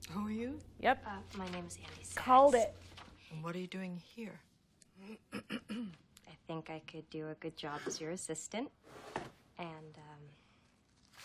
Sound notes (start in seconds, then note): 5.2 clears throat